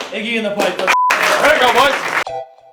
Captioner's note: beep; smooth music